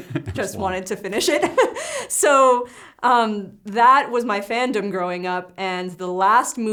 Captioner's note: laughs